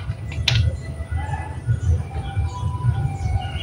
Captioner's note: clap